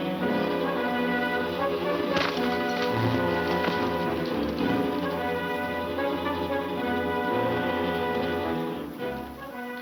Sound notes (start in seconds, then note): 1.2 punch thuds